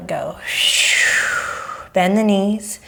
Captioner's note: exhaling